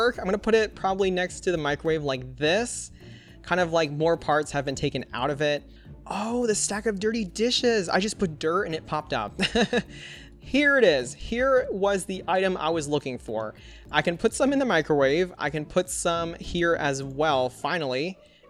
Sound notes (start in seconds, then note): 9.4 laughs